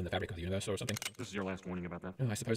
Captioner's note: click of safety off